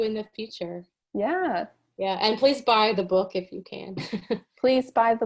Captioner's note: chuckles